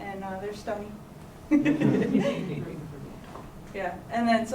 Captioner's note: laughter